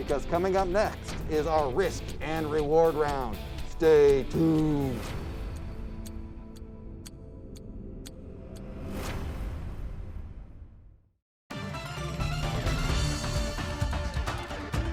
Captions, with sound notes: because coming up next is our Risk and Reward Round. Stay tuned! (intense music) (clock ticks) (energetic music)